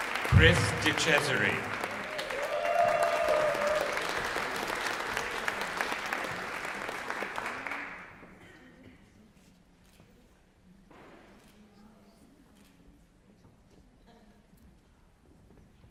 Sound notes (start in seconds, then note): 1.8 cheering